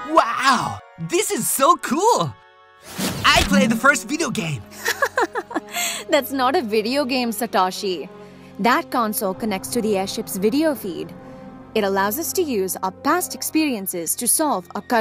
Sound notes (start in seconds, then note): 4.8 laughs